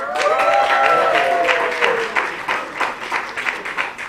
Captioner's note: applause